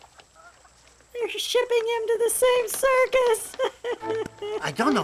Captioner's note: ਰੋਣਾ